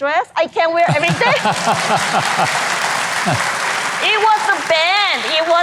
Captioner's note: host laughs; audience applause